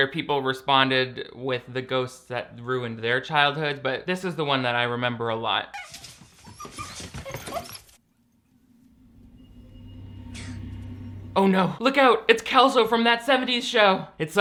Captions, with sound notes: where people responded with the ghosts that ruined their childhood. But this is the one that I remember a lot. (puppy whining) (eerie music) Oh no! Look out! It's Kelso from "That '70s Show"!